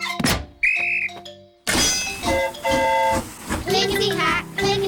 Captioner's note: blows whistle; train horn toots